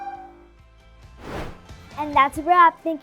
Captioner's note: upbeat music; air whooshing